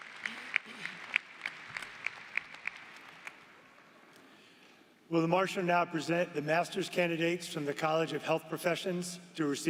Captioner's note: applause